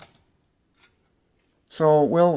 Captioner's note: silence